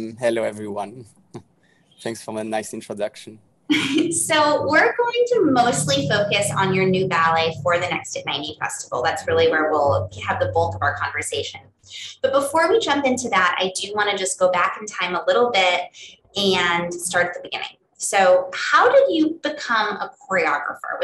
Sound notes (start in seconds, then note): 1.3 chuckles; 3.7 laughing